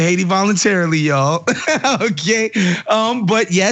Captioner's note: laugh